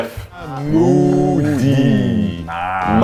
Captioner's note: chanting